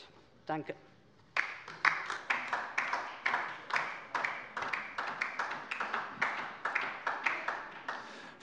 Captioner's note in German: Beifall Die LINKE